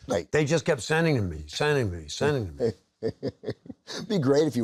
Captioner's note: chuckles